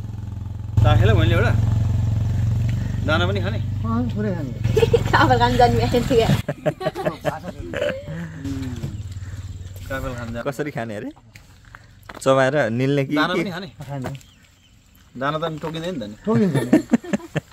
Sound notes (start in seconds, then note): 4.6 laughter